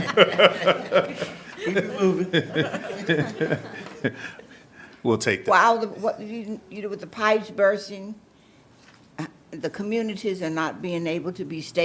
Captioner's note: laughter